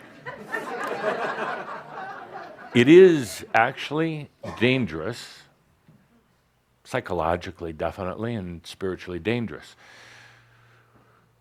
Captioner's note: laughter